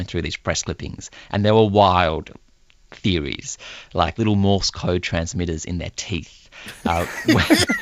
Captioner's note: laughs